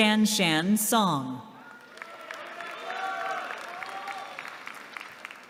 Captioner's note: applause